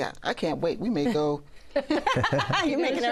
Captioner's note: laughter